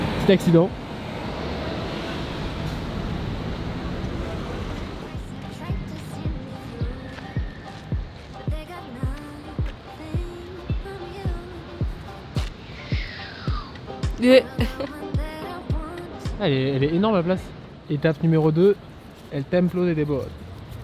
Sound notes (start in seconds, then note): 13.6 imitating sound of approaching camera; 14.6 weird noise of surprise